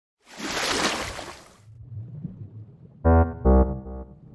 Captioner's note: sound of water splashing; underwater sounds in the background